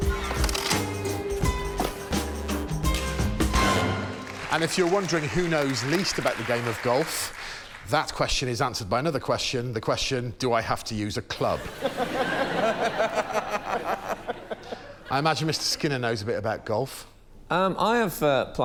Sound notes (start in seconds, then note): 0.0 funky music plays; 11.6 laughs